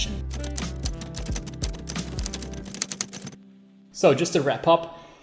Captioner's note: keys clacking